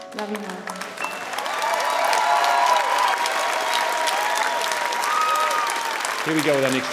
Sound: audience clapping and cheering

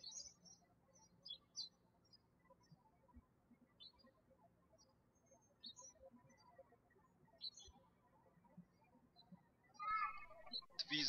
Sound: birds chirping

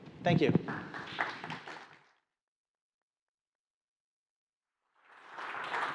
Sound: applause

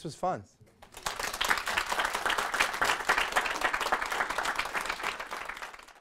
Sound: applause

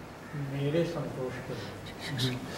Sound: in Hindi

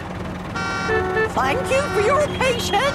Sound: cars honking

